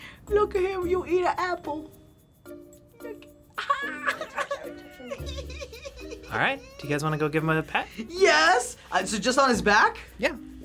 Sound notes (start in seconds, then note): 3.6 laughs